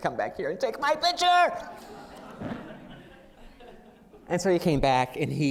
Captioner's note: laughter